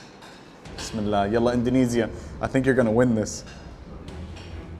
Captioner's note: speaks Arabic; dramatic music